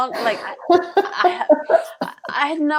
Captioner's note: laughs